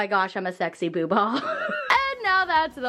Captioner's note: laughs